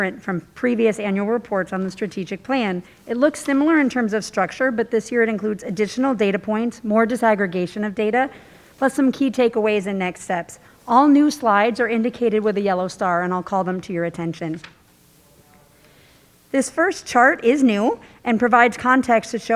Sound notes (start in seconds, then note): 14.8 page rustling